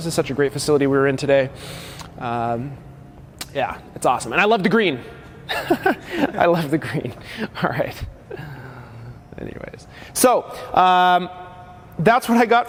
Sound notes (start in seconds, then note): 5.5 laughing